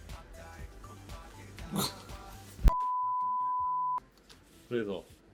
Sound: gasps / BEEP

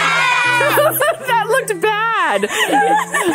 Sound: girls laugh; laughs

